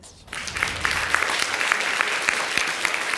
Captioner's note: audience clapping